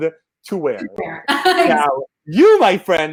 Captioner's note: laughs